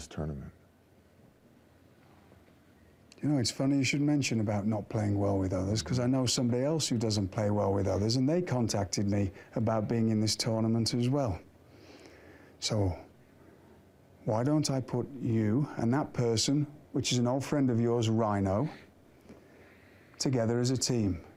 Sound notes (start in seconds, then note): none